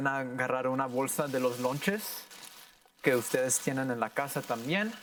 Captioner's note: plastic rustling